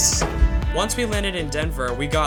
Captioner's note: voiceover